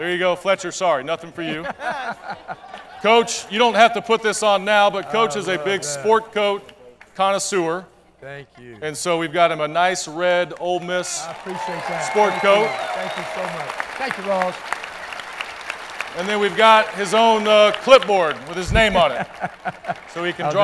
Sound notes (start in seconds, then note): 16.0 applause